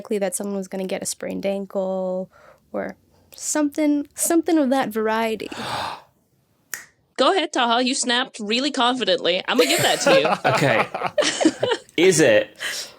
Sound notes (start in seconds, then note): 5.6 gasps, snaps fingers; 9.6 laugh; 9.6 laughs